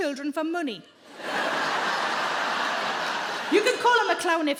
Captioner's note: crowd laughs